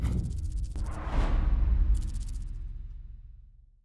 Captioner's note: swoosh